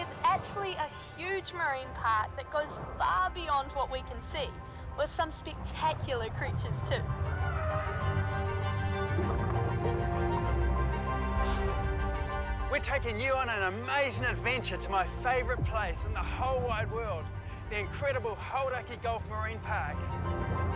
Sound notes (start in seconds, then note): 7.5 whale bellows; 9.6 water bubbling